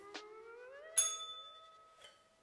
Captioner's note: bell rings